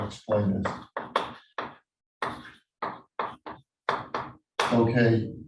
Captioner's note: chalkboard tapping loudly